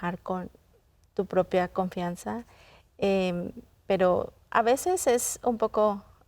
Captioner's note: continues speaking in Spanish